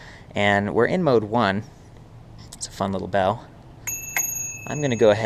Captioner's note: ringing sound